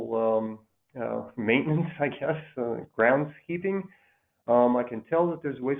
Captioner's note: laughs